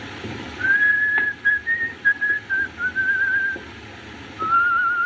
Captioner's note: whistling